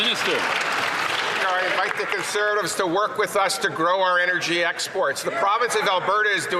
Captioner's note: some Applause